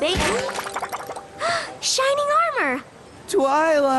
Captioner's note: gasp